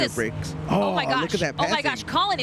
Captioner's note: chatter